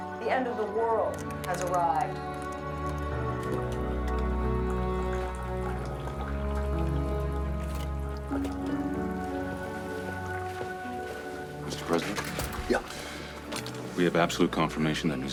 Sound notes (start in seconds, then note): 9.2 footstep